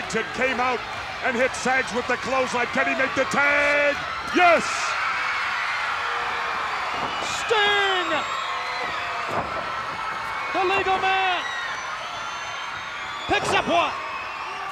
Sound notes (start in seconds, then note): 5.7 crowd cheers; 8.8 crowd cheers